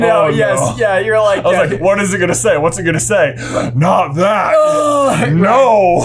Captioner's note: gasp